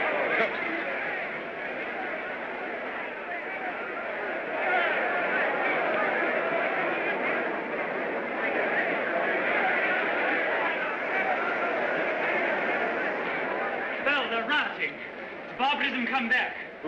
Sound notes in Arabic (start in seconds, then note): 2.2 حشد من الناس يصرخون